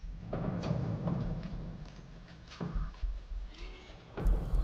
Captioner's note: gate sliding open